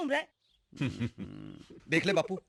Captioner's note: chuckling